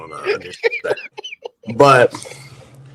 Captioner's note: laughing